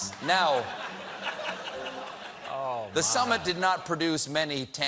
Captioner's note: laughter